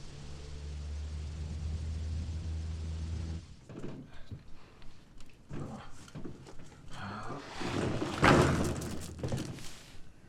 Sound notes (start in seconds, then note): 7.0 grunting